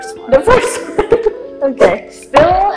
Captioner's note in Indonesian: ketawa